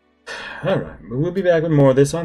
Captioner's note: sighs